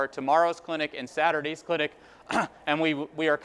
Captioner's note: clears throat